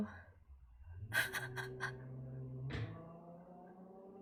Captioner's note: laughs